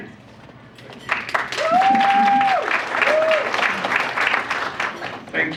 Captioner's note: audience applauds